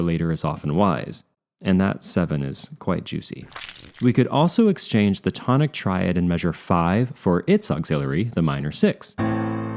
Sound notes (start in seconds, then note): 3.4 squish; 9.2 chord